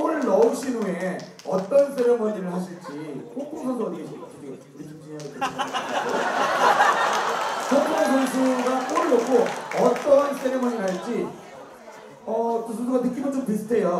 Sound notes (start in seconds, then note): 5.3 haha